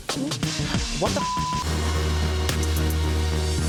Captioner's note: beep; dramatic music